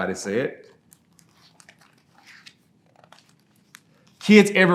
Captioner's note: pages rustling